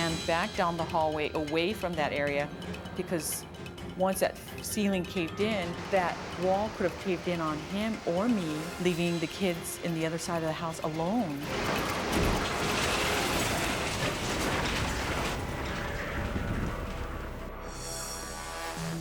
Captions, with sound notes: - I ran back down the hallway away from that area, because once that ceiling caved in, that wall could have caved in on him, or me, leaving the kids in the other side of the house alone. (dramatic music) (house breaking)